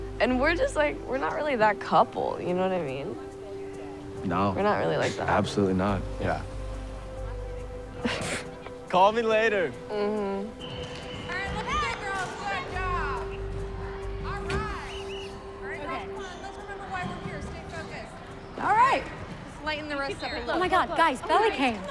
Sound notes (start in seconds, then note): 8.0 Taylor chuckling; 10.5 whistle blowing